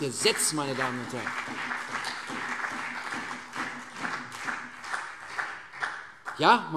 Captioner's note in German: Beifall CDU und BÜNDNIS 90/DIE GRÜNEN